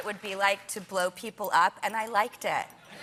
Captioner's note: laughter